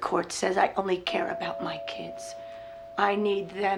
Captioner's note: doorbell rings